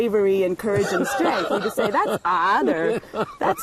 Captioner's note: laughter